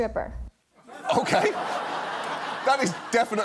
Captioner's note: audience laughs